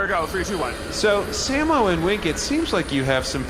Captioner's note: laser sound effect